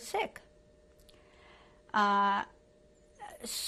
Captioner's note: pauses for 3 seconds